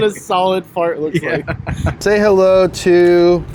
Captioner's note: laughing